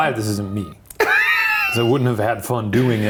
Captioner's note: laughing